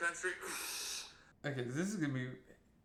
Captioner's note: exhales